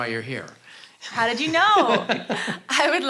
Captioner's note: laughs